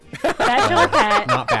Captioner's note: laughing